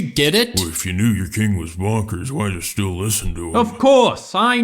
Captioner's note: mumbling